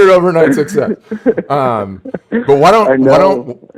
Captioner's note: both laughing